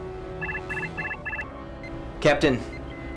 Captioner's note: alarm